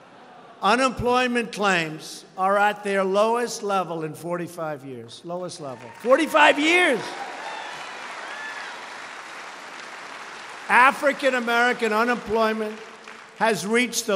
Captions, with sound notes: Unemployment claims are at their lowest level in 45 years. The lowest level -- 45 years. (Applause.) African American unemployment has reached